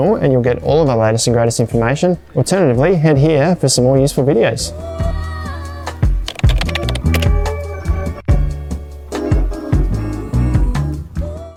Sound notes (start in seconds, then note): 5.2 smooth music; 6.2 typewriter sound effect